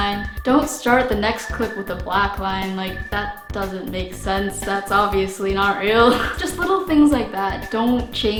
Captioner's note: chuckle